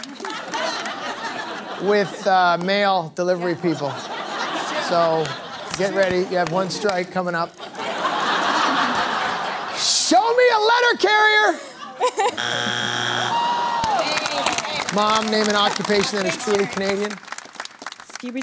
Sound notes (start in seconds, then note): 0.0 laughter; 7.3 laughter; 12.3 buzzer sounds